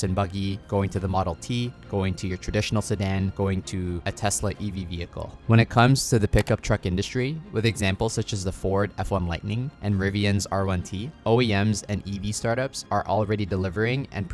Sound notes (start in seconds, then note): 6.3 cursor clicking